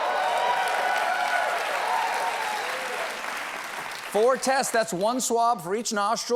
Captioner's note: applause